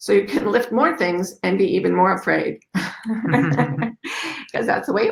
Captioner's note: chuckles